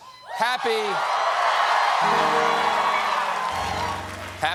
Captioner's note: cheers and applause; piano riff